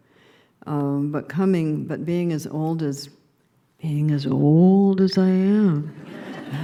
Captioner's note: laughter